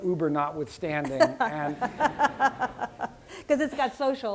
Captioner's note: laughter